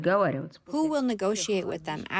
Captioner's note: through translator